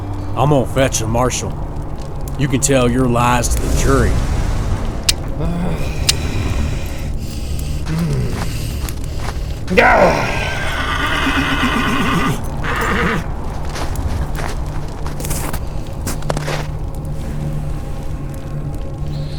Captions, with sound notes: I'm gonna fetch a marshall. You can tell your lies to the jury. *Click* *Click* Yaw! [horse neighs] [ominous music]